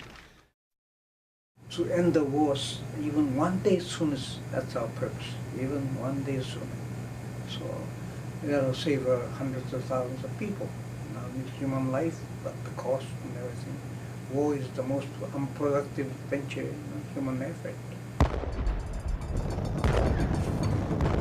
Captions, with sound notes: - TO THE END THE WAR EVEN ONE DAY SOONER, THAT'S OUR PURPOSE-- EVEN ONE DAY SOONER. SO IT'LL SAVE HUNDREDS OF THOUSANDS OF PEOPLE, NOT ONLY HUMAN LIFE, BUT THE COST AND EVERYTHING. WAR IS THE MOST UNPRODUCTIVE VENTURE IN HUMAN AFFECT. [explosions]